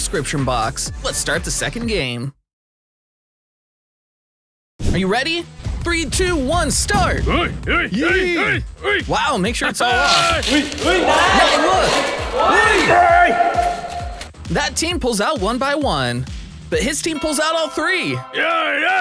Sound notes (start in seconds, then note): 12.9 scream